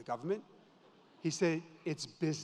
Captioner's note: audience laughs